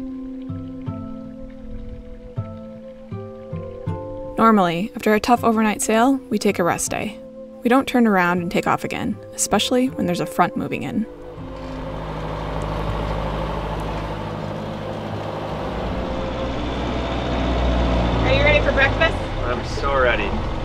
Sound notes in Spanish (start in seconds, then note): 0.1 música suave; 11.9 motor rugiendo